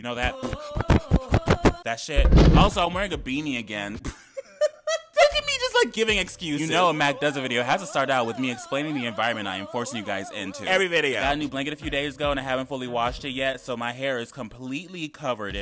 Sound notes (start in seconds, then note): 0.0 upbeat music; 0.3 loud popping; 2.2 loud roar; 3.9 man laughing